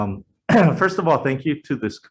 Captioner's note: clearing throat